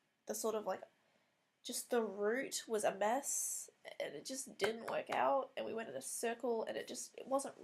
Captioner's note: claps between words for emphasis